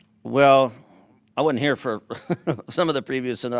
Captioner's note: chuckles